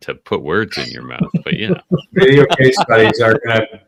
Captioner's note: laughs